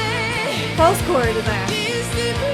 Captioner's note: distortion